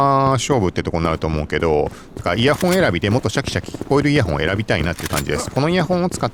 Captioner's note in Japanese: 鼻息